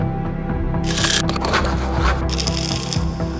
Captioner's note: scribbling; pills rattling